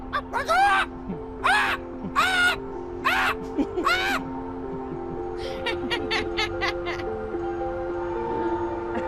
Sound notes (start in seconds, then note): 4.6 laughs